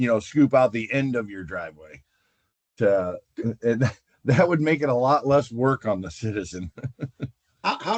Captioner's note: laughter